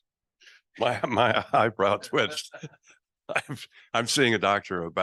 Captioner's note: laughing